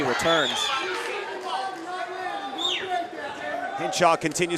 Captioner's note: audience cheering